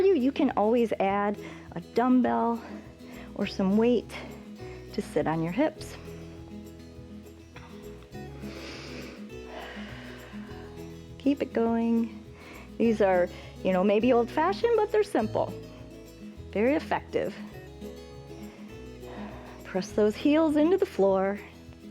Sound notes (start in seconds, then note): 8.2 inhales and exhales